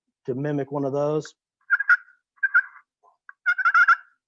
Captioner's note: turkey caller making a "purr" noise